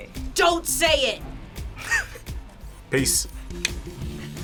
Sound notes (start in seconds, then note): 1.8 laughs; 3.6 clicks tongue